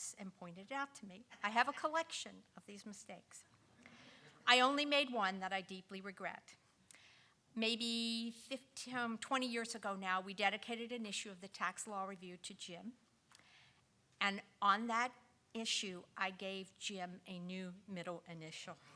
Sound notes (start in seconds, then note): 3.6 audience chuckling